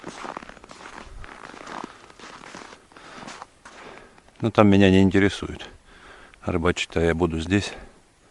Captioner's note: steps